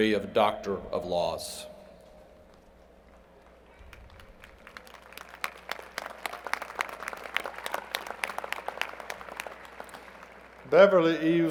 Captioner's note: applause